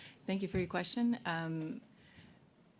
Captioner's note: speaking in French